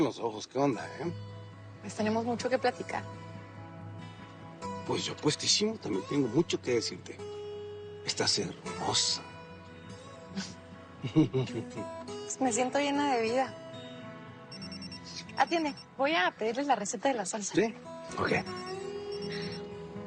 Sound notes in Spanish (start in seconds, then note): 11.0 Risas; 14.5 Suena el celular